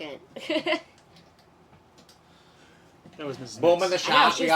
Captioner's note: lady chuckling